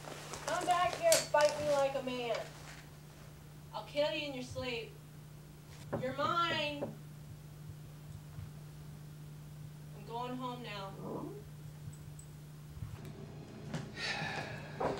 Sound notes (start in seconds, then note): 5.9 knock thudding; 12.3 dog grumbles